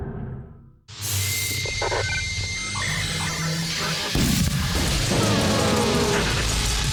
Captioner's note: static buzzing; intense music